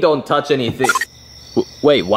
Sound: crickets chirping; tone beeps

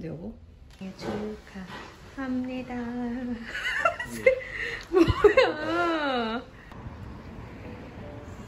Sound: laughs

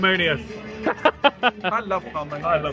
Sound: laughed

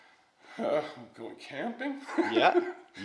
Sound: laughs

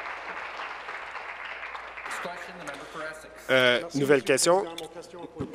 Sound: applause

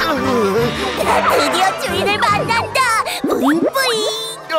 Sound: giggling

